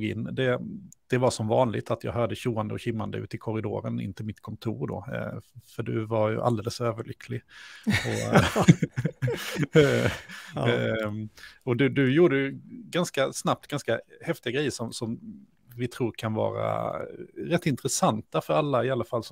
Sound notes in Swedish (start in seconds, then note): 7.8 Skratt